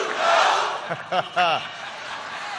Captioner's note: laughter